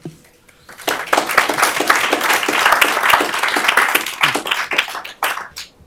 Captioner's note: applause